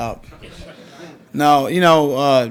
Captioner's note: audience laughs